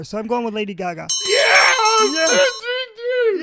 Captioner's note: celebratory bell ringing